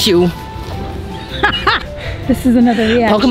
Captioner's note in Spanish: Risas